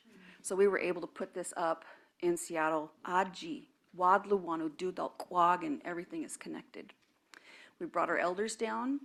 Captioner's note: speaking own language